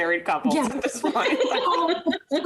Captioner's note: laughing